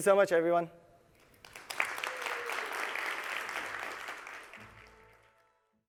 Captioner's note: applause